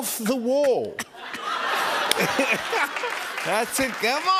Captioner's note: laughter and applause